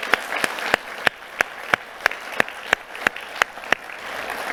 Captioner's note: audience applauding